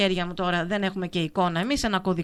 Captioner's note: radio broadcasting